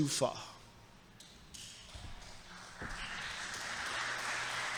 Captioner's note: audience applauds